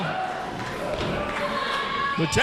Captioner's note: crowd cheering